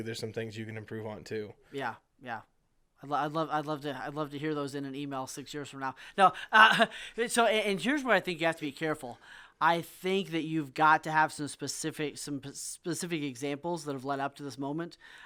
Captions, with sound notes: there's some things you can improve on too. - Yeah, yeah. I'd love to hear those in an email six years from now. No (laughs) so here's where I think you have to be careful. I think that you've got to have some specific examples that have led up to this moment.